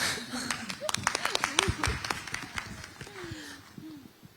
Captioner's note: claps